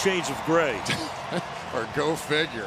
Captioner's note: cheering